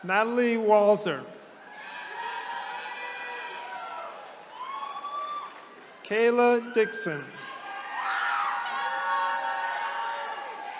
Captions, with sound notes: Natalie Walzer. (attendees cheering) Kayla Dixon. (attendees cheering)